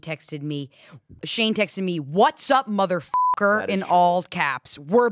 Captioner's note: beep